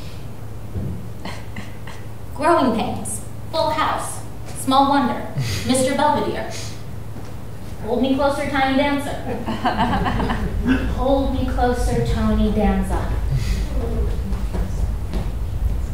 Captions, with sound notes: "Growing Pains," "Full House," "Small Wonder," "Mr. Belvedere." "Hold me closer, tiny dancer." (audience laughing) "Hold me closer, Tony Danza."